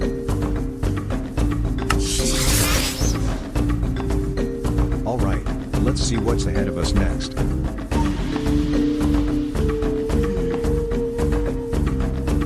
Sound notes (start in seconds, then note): 1.9 whooshes